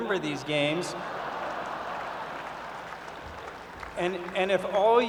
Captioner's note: laughter and applause